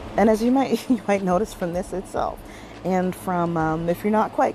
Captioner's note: chuckles